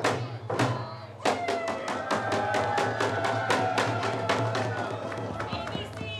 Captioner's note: cheers and applause